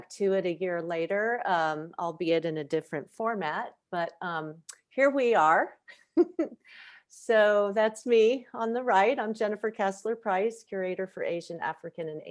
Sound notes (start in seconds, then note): 5.9 chuckles